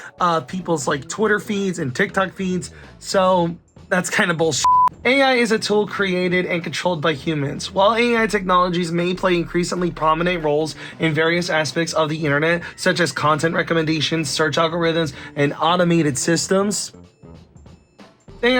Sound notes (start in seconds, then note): 4.6 beep